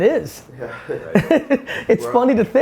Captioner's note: laughing